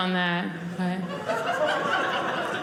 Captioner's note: audience laughing